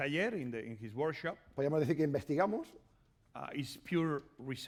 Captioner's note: speaking spanish